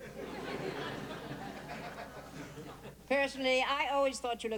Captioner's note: laughter